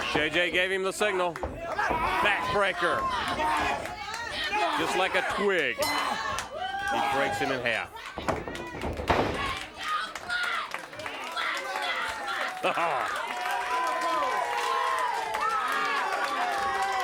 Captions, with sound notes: J.J gave him the signal. Backbreaker. Just like a twig he breaks him in half. (crowd cheering) Haha. (crowd cheering)